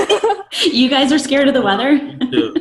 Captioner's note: laughing